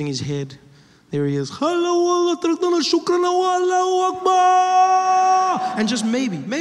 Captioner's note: speaking Arabic